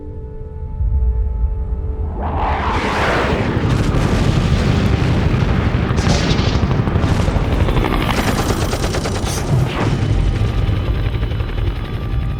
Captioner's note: war Sounds